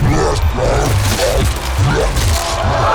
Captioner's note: munching; exclaiming